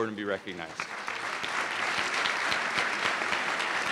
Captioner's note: applause